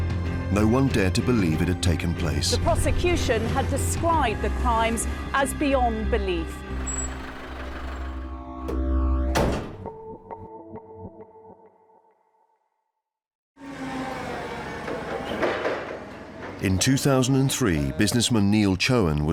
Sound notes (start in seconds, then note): 9.2 ambient music; 9.2 door slamming